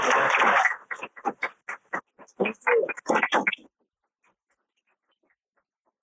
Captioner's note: applause